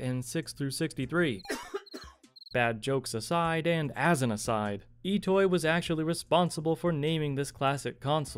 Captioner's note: crickets chirping